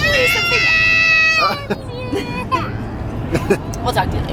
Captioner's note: shouting